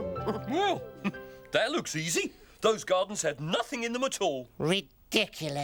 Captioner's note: exclaims; chuckling